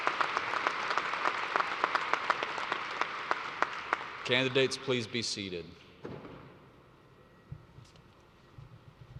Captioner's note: cheersnd alause